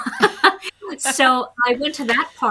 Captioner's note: chuckles